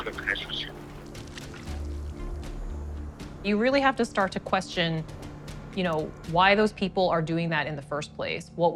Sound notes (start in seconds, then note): 0.9 water splashing; 1.7 ominous music